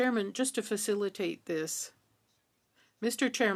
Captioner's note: speaking French